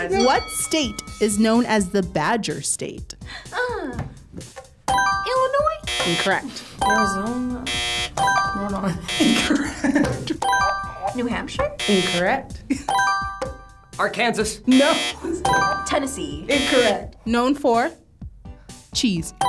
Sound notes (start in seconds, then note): 3.6 gasps; 5.7 buzzer chimes; 5.7 buzzer blares; 6.8 buzzer chimes; 6.9 buzzer blares; 8.7 laughing; 11.6 buzzer chimes; 11.6 buzzer blares; 14.6 buzzer blares